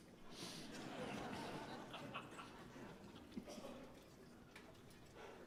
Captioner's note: audience laughing